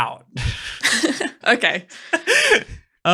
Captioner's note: laughing